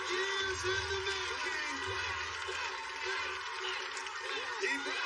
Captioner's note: chananting